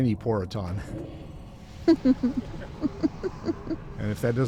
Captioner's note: laughter